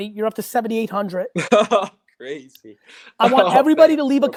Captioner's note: laughs